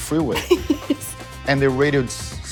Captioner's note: laughs